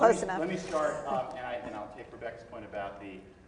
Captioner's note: laughs